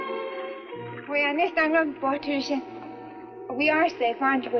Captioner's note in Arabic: آن تتحدث السويدية